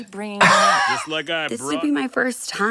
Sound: Katya laughs

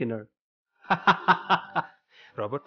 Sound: laughing

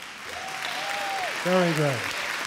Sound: audience clapping and cheering

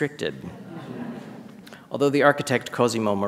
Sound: audience chuckles

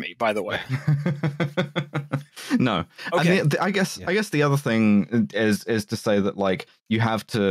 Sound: chuckles

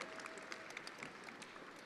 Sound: attendees applauding

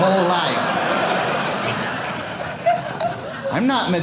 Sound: audience laughing

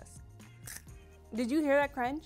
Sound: fry crunches

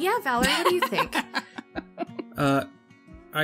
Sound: laughs

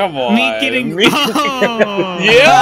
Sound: laughter

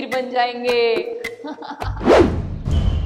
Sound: laughing

